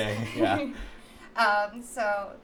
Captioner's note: laughs